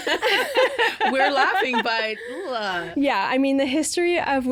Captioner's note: groaning